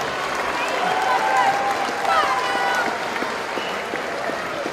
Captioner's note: applause